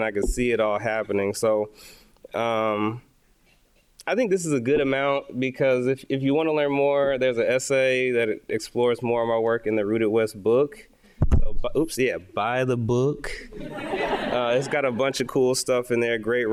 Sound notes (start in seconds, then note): 13.6 audience laughing